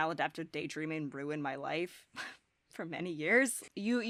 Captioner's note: chuckles